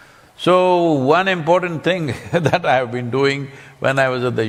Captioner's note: laughs